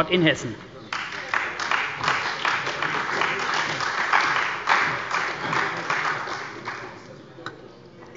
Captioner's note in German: Beifall bei der CDU und dem BÜNDNIS 90/DIE GRÜNEN